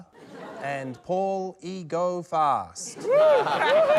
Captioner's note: cheering, applause